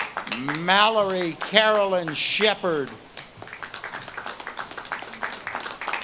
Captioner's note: audience claps and cheers